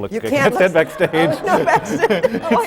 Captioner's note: laughs; laughter